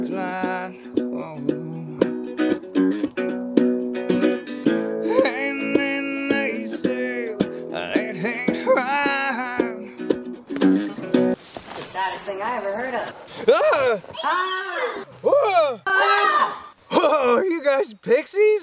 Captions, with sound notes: *screams surprised* *both pixies scream scared* *the screaming pixies scare Honeywind so he screams again* *the screaming Honeywind scares the pixies so they scream even more* Whoa, are you guys pixies?